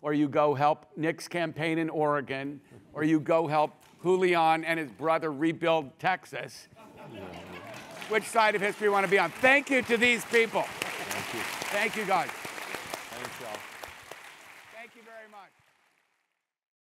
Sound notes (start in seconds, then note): 6.8 laugh; 6.8 applause; 10.5 applause